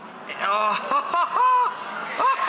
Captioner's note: audience oohs